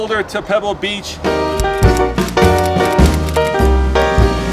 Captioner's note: keys typing